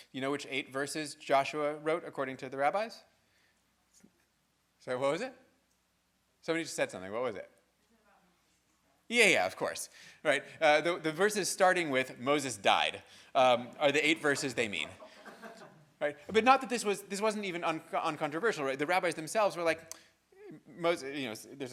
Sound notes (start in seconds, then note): 14.3 audience laughing